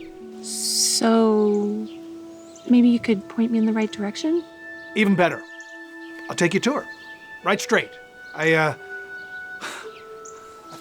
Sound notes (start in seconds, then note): 8.1 laughs